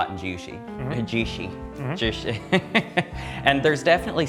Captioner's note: chuckles